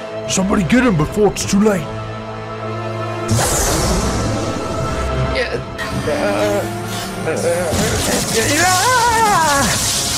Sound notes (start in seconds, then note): 5.9 moans in pain; 8.6 screams in pain